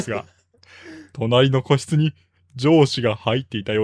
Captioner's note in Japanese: 笑い